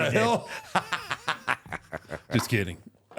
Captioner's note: both laughing